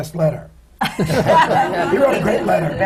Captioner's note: laughter